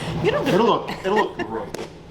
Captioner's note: laughing